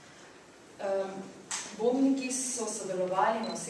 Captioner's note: non-english speech